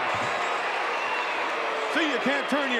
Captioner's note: audience cheering